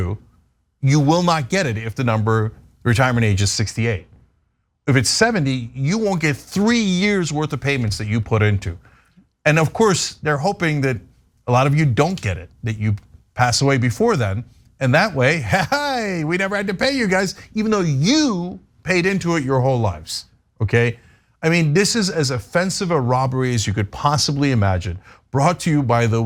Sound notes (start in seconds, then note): 15.2 laugh